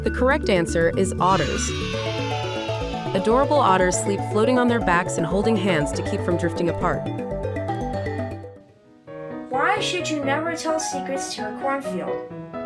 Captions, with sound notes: The correct answer is otters! (children cheering) Adorable otters sleep floating on their backs and holding hands to keep from drifting apart. (intriguing music) - Why should you never tell secrets to a cornfield?